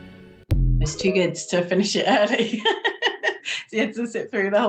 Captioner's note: laughs